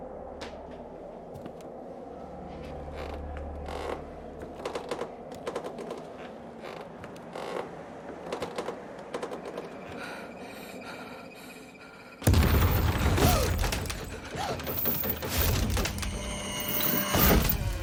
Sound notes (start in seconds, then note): 9.6 panicked breaths; 12.8 suspenseful; 14.7 rattling